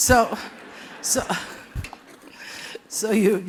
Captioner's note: laughter